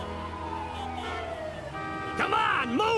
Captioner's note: horns honking